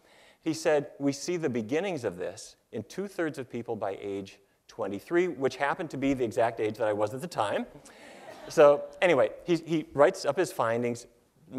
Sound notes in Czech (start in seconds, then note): 8.0 Smích